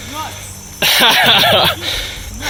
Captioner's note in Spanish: ríe